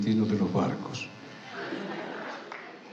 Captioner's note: laughter